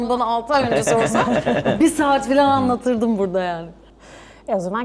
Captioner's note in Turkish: kahkaha